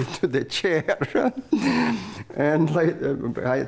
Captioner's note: laughs